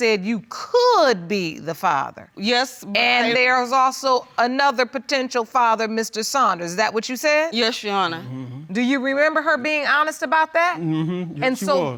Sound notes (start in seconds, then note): none